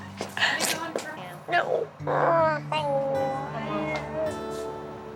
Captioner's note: crying